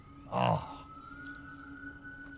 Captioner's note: ethereal music playing; Sam groans